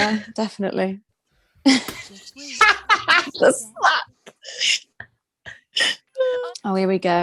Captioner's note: she laughs